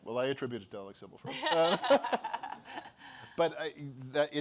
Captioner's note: laughter